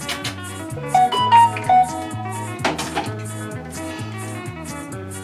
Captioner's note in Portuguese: barulho de mensagem no celular